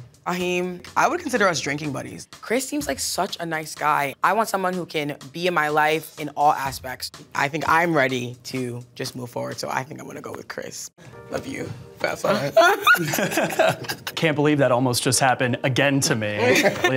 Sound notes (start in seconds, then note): 12.5 laughs; 12.6 chuckles; 12.6 laughs